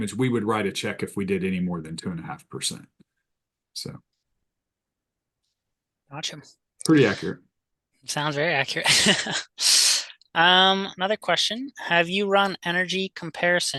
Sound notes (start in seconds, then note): 8.9 host chuckles